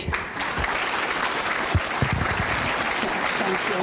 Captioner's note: applause